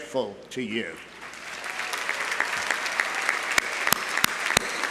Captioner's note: audience applauding